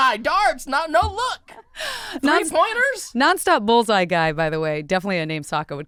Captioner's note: laughing